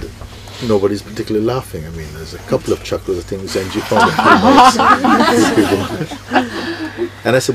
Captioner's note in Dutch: gelach